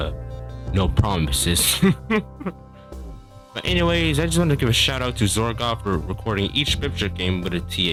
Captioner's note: laugh